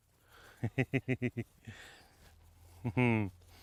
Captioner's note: laughing